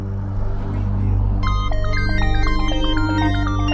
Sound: phone rings

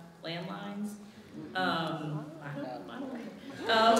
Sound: audience chuckling

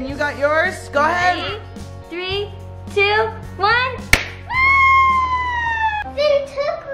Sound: cheers

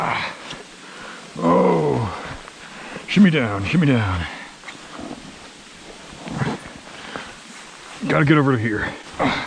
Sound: pain noises

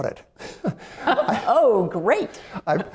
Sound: laughter

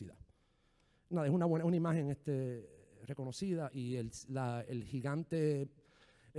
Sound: speaking in foreign language

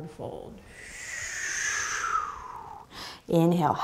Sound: exhaling breath

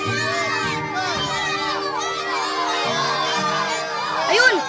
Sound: kids and Bruce cheering

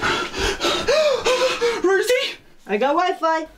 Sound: gasps loudly

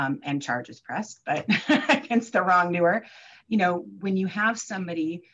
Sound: chuckles

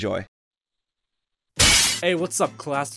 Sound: window Smash

